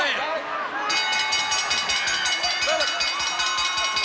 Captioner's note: bell dinging